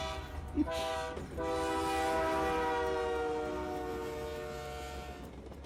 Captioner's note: train horn blares as it barrels past the tracks